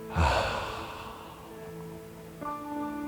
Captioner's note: breathing in and out through the nose